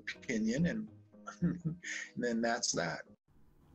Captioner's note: laughs